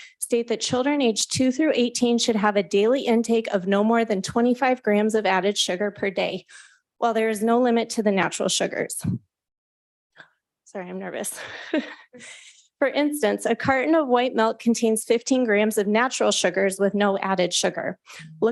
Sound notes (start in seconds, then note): 11.4 chuckles